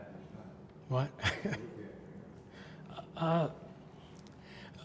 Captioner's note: laughs